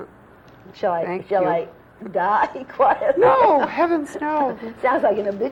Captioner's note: laughter